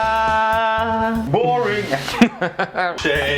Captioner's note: laughs